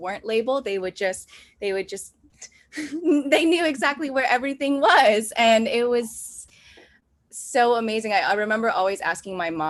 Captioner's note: laughs